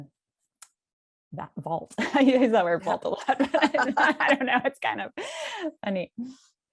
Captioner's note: laughter